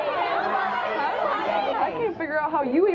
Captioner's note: audience yells